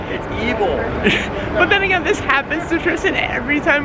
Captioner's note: lols